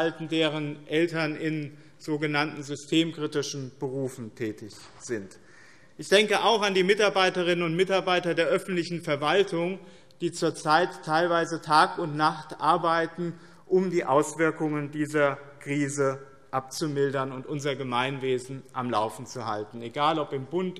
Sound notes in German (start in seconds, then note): none